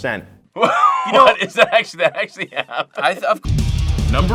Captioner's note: laughing; rock music